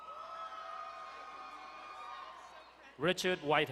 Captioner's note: crowd cheering and applauding